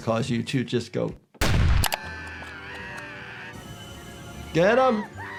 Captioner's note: bomb exploding; Wendy screaming